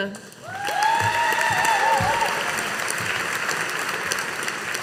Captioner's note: audience applauding